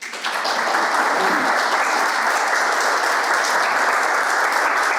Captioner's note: audience applauding